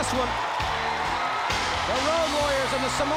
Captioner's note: crowd cheering